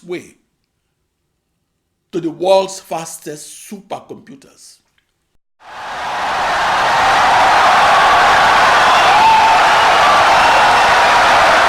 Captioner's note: wild applause and cheering for 17 seconds